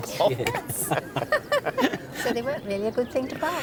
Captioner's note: they laugh